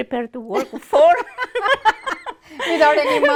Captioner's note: laughter